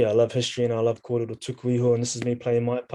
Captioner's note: speaking in foreign language